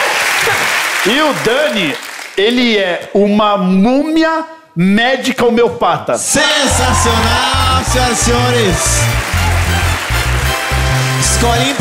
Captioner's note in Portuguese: aplausos